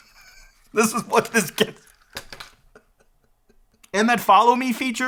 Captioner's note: laughs